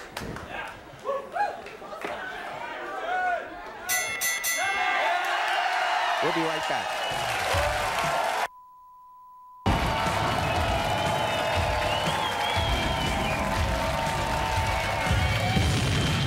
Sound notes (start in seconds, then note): 3.8 bell dinging; 4.3 audience cheering; 8.5 beep; 9.6 edgy music; 9.6 audience cheering